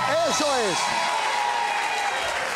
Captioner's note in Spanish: Aplausos